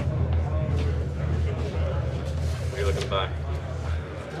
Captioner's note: crowd chattering